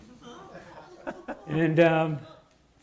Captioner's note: audience laughing